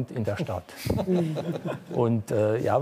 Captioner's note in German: Leichtes Lachen